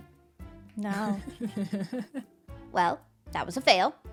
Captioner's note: laughs